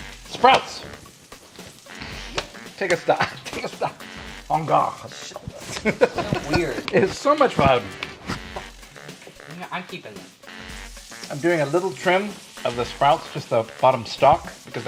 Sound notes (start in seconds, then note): 1.2 dramatic music; 5.0 laughing; 8.3 dramatic music